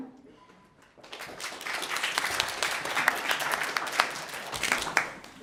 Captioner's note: audience clapping